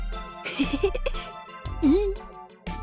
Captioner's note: chuckle